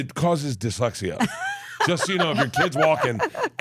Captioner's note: laughs